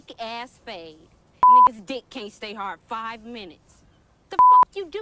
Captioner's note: beep; beep